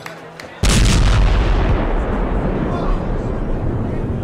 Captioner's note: explosion